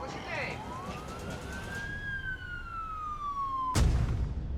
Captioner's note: sirens